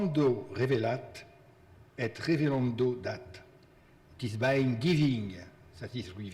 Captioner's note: speaking in foreign language